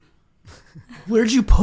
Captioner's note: laughing